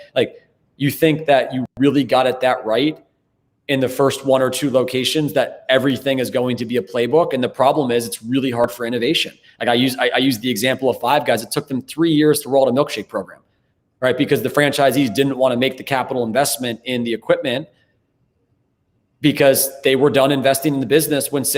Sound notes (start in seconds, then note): none